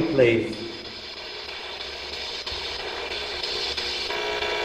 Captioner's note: static buzzing